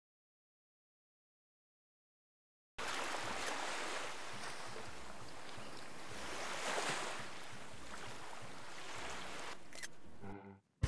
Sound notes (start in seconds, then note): 2.8 ocean waves and camera clicking